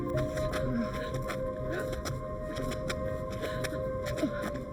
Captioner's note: both panting